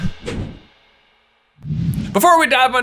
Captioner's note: logo whooshing